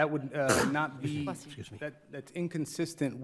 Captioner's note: sneezes